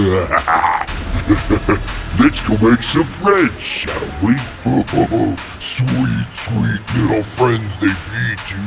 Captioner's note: laugh